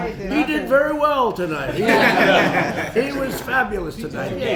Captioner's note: laughter